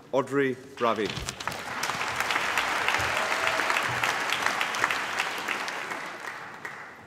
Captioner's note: applause